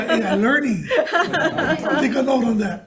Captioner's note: everybody laughing